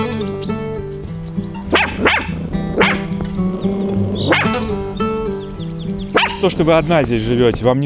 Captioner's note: puppy barking